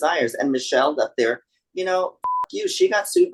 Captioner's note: beep